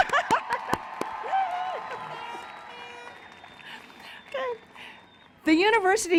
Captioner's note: cheering